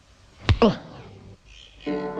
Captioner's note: grunt